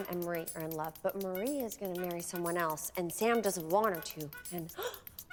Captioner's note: gasps